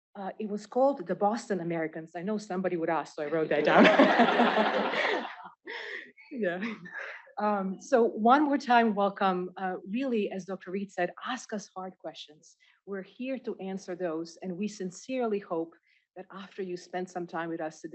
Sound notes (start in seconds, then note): 3.4 laughter